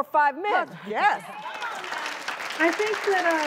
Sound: clapping

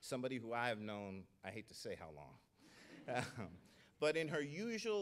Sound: laughs

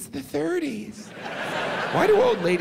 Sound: audience laughs

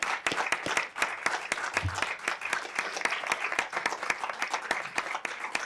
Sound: applause

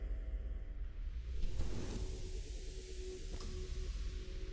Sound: low whoosh

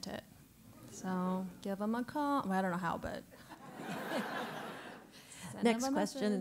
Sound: laugh

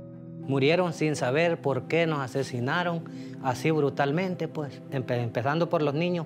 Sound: speaking Spanish

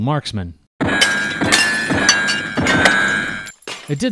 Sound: pop! pop! pop!

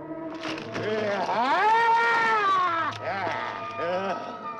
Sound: the beast screaming

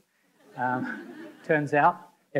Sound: audience laughing

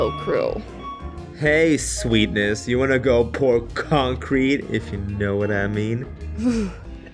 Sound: shudders

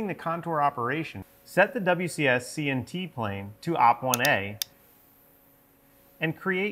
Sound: mouse clicking

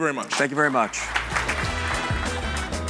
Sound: audience clapping; fast upbeat music

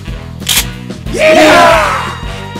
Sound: battle cries

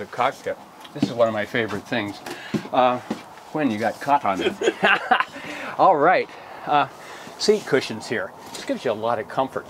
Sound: laughter

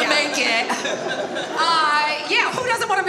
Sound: audience laughs

